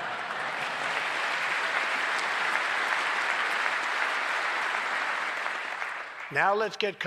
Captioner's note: laughter and applause